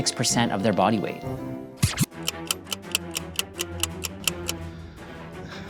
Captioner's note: ticking